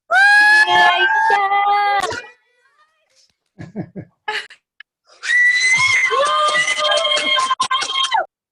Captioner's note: cheering